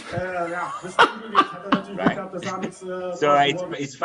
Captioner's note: laughing